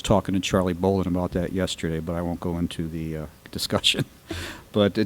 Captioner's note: laughs